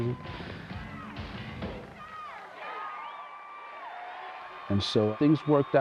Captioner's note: audience cheering